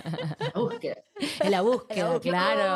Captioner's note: Argentinian accent